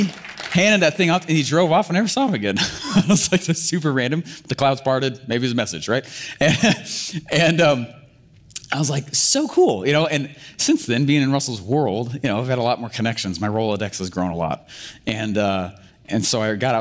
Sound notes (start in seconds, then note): 0.0 audience clapping; 3.0 laughs